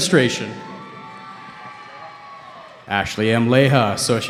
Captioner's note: cheering